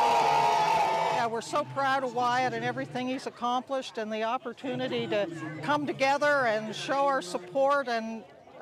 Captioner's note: cheering and Applause